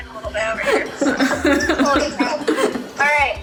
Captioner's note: laughing